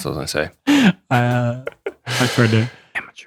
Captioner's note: laughter